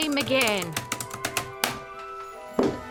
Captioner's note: typing stops